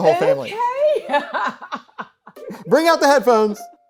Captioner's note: laughing